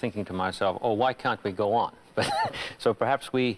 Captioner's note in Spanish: Risas